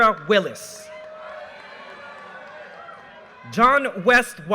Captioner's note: audience cheers and applause